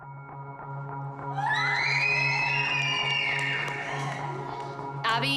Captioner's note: screaming